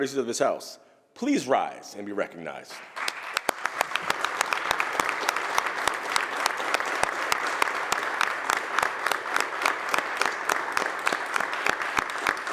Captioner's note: applause